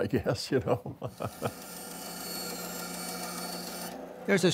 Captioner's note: band saw blade whirling